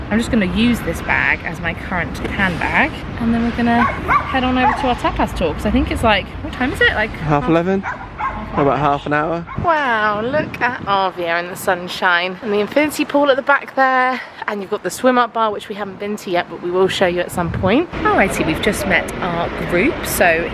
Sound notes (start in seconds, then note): 3.8 dog barking; 7.8 dog barking